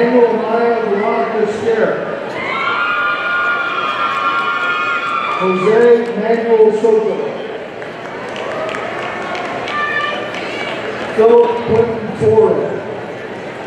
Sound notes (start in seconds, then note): 2.3 audience cheering; 7.6 audience applauding